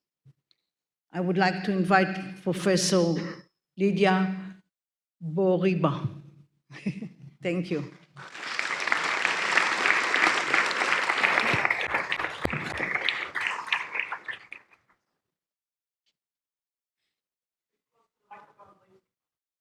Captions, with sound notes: I would like to invite Professor Lydia Bourouiba. Thank you. [APPLAUSE]